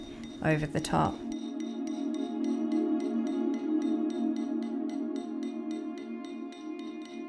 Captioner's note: metal clanging; alluring music